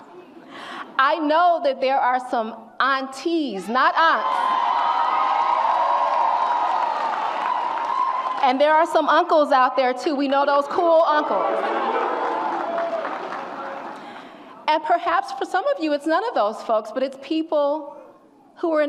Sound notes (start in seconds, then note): 4.5 audience applauds and cheers